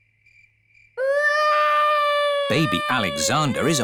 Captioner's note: baby alexander crying